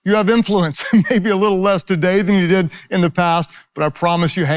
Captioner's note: laughs